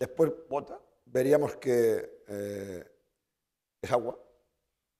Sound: spanish; speaking spanish

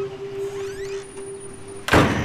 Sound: door closing

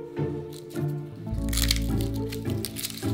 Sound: garlic peeling

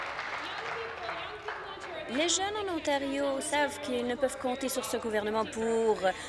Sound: applause

